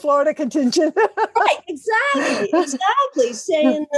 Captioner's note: laugh